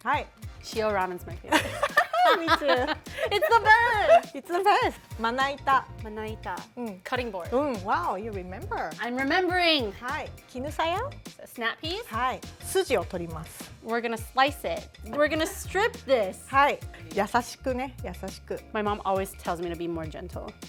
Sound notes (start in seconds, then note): 1.5 laughter; 5.0 speaking Japanese; 10.5 speaking Japanese; 12.6 speaking Japanese; 17.4 speaking Japanese